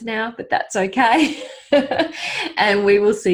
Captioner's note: laughing